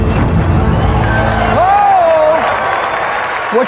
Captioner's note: dramatic music climaxes; cheering and applause